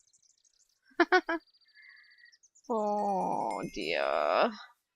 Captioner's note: laughs